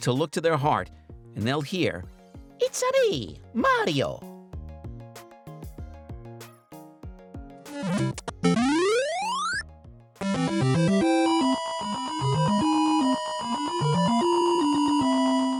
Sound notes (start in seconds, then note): 7.7 Super Mario Bros. sounds